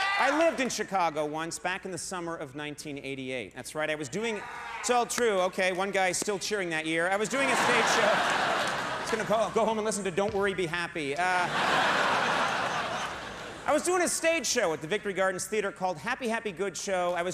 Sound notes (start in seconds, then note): 4.2 audience cheers; 7.2 audience laughs; 11.2 audience laughs